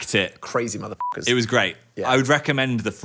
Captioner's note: beep